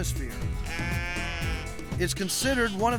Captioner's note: sheep bleating